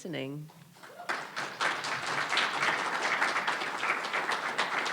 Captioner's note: audience applauding